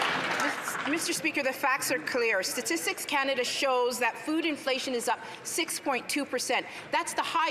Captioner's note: some Applause